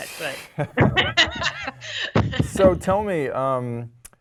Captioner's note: laugh